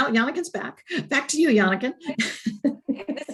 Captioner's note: laughs